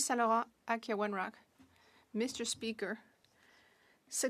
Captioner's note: speaking French